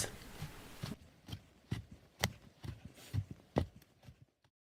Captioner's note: the sound of steps fading out